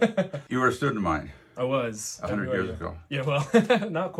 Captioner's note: ㅋㅋ